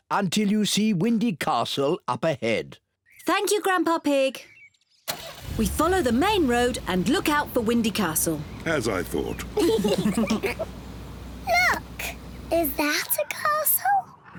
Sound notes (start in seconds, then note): 9.2 all giggle